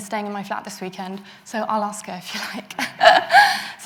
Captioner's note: laughs